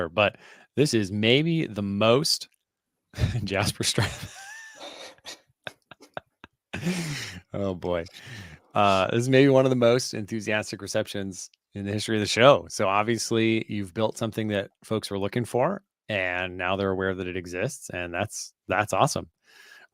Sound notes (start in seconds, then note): 3.8 laughter